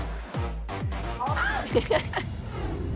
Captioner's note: gasps; giggles